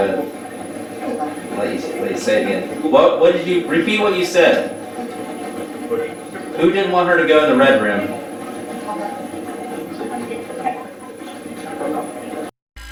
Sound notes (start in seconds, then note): 5.1 static playback transmitting; 8.9 static playback transmitting